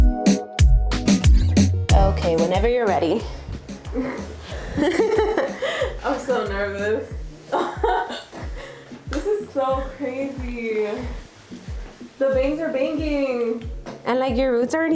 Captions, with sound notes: (upbeat music) Okay, whenever you're ready. (laughing) - I'm so nervous. This is so crazy.